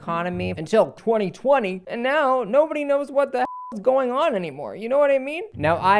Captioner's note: beep